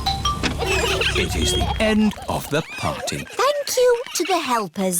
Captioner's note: laughs